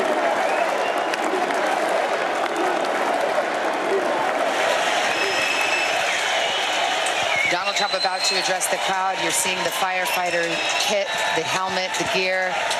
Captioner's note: cheers and applause